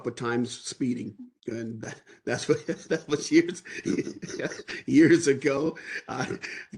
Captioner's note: laughter